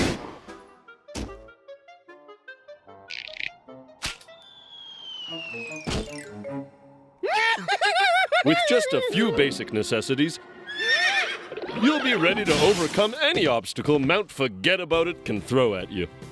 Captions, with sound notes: (laughter) WITH JUST A FEW BASIC NECESSITIES... (whinnies) YOU'LL BE READY TO OVERCOME ANY OBSTACLE MOUNT FORGET ABOUT IT CAN THROW AT YOU.